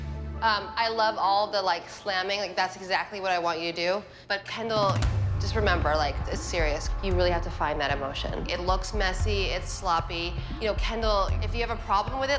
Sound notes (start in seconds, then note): none